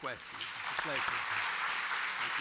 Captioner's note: applause